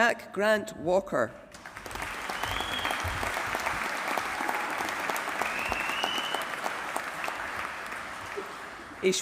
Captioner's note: applause